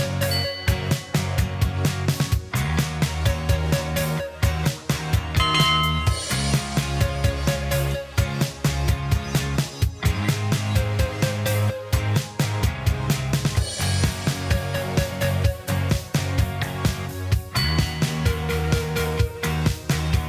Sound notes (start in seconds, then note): 2.7 upbeat music; 5.4 bell chimes; 9.7 upbeat music; 17.6 bell chimes